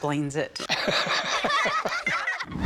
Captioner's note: laughter